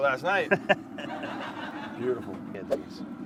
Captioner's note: laughs; recorded laughter plays